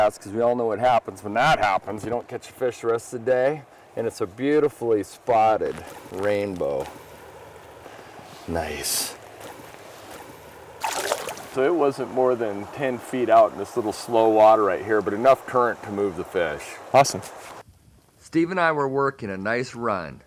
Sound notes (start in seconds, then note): 10.7 splash